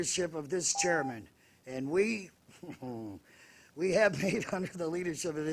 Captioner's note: buzzer